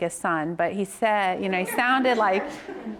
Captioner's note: all laugh